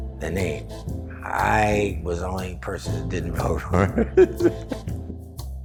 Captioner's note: laughs